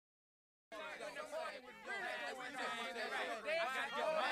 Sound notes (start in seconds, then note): 0.7 chatter